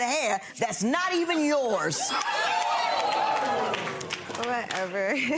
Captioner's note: audience laughing; laughs